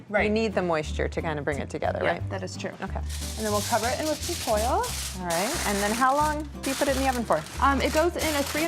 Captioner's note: none